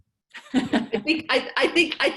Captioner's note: laughs